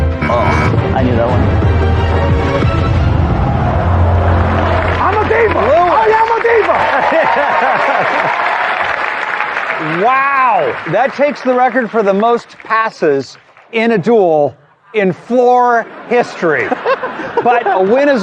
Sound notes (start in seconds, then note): 0.0 buzzer sounds; 3.2 audience gasping; 7.6 cheering and applause